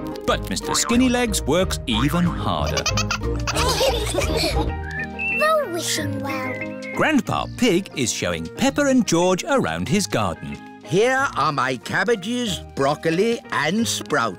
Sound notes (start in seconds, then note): 2.4 all laugh